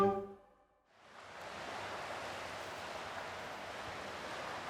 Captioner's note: ambient outdoor sound